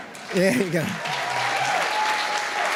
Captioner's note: applause